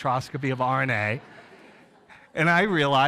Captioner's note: audience laughs